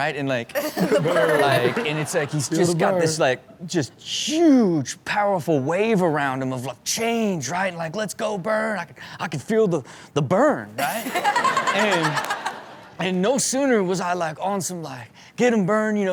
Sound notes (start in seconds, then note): 0.6 laughing; 10.9 crowd laughs; 11.3 Chanel laughs